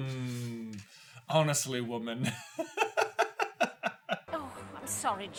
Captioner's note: cracks up laughing